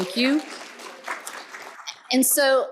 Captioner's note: applause